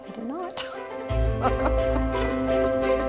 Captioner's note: laughs; gentle music